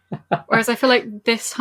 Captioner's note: laughs